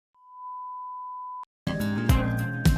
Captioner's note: test tone